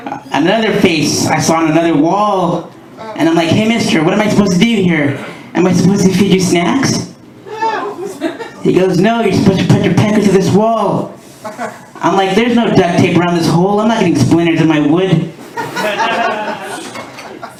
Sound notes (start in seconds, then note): 8.0 laughter; 11.4 laughter